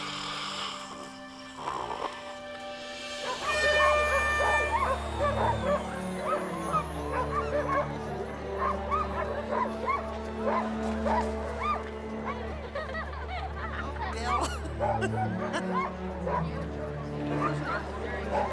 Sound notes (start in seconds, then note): 3.2 dogs barking; 3.3 horn blaring; 16.3 chuckling